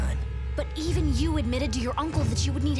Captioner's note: none